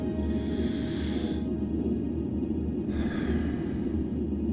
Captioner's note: logan breathes deeply